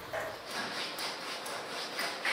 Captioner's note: rubbing noise